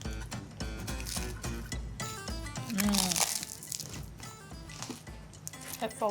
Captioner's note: upbeat music continues; crunching